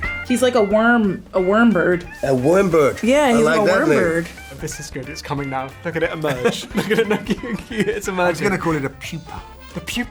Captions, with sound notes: - He's like a worm, a worm bird. - A worm bird? - Yeah, he's a worm bird. - I like that name. - Look at this guy. It's coming now. Look at it emerge. (both laughing) It's emerging. - I'm going to call it a Pewpa.